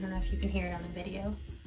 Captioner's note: soft Buzzing